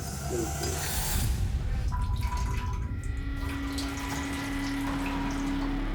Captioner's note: urinating